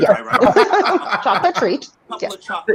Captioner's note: laughing loudly